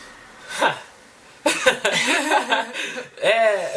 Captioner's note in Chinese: 苦笑